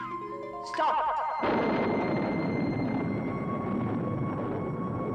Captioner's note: thunder clapping